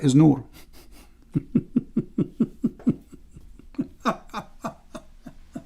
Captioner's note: Ketawa